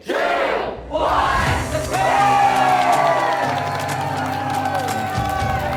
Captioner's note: crowd cheers; upbeat music